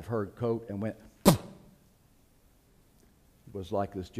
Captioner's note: spitting sound